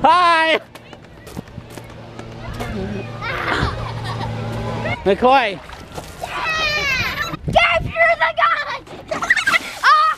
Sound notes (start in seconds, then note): 1.6 water spurting; 9.2 laughing